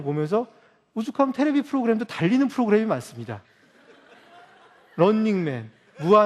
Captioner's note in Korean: 웃음